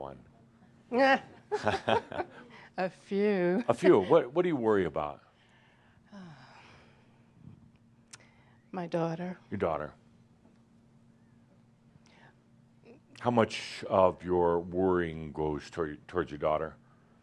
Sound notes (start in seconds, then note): 3.6 she chuckles; 6.0 sighs